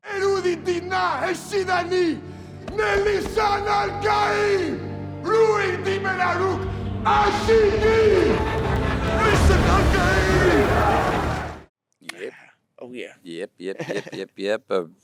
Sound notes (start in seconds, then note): 0.1 speaking in foreign language; 7.1 speaking in foreign language; 9.2 actor speaking in foreign language; 10.7 crowd